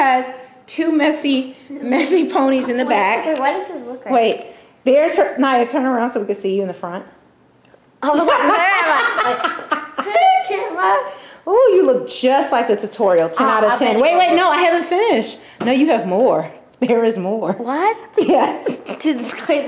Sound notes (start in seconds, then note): 8.2 laughter